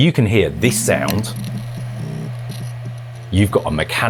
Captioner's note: HDD spinning and crackling sounds